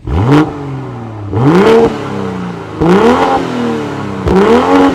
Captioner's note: engine revving